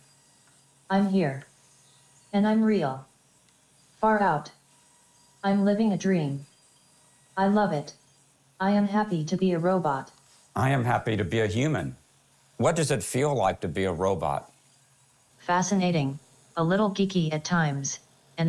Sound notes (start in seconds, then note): none